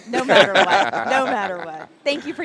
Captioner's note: all laugh